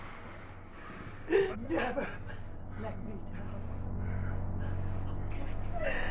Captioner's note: Tina sobs